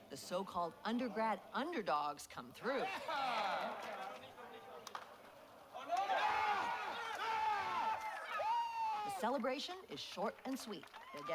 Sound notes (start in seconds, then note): 3.1 audience cheering